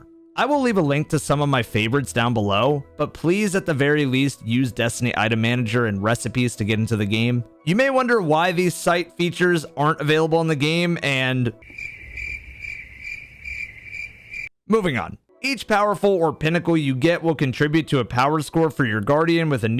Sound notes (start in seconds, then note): 11.6 crickets